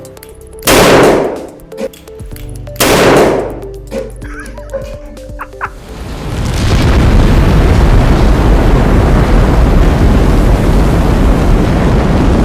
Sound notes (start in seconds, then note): 0.7 explosion; 2.8 explosion; 4.2 laughter; 7.6 rocket booster firing